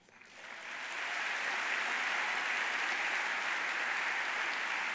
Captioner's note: audience applauding